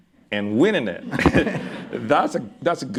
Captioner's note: laughter